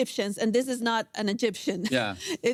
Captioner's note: laughs